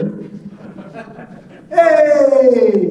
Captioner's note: laughing